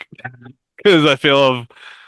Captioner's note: chuckles